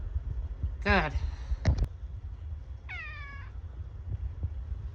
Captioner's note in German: Caprice miaut